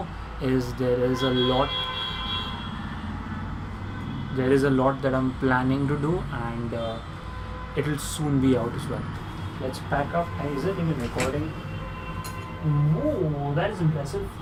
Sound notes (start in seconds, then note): 0.8 intense traffic honks